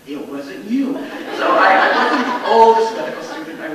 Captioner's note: audience laughs